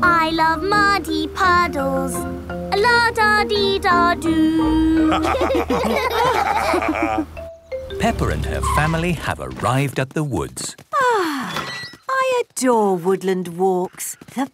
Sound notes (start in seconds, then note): 5.0 laughter; 11.3 contented sigh